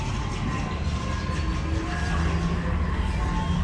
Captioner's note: space age ride sounds